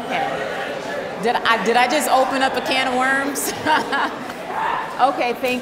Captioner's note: laughs